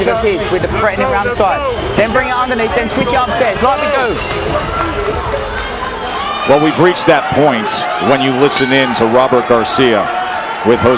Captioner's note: whistle